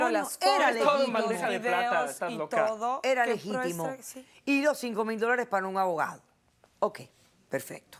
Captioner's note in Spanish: Hablan al unísono